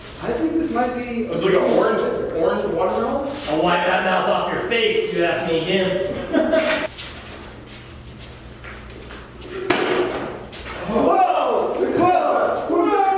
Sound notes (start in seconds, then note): 6.3 popping noise